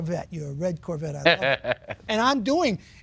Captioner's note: laughing